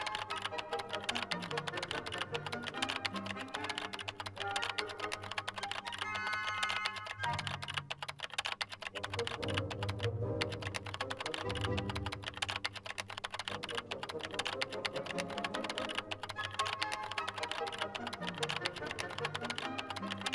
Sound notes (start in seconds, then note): 0.2 dramatic music continues; 10.3 keys continue tapping